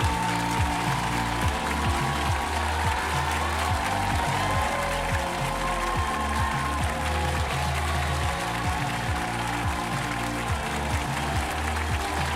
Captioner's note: applause